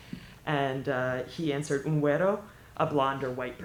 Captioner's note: speaking spanish